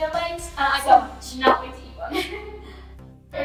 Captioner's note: both giggling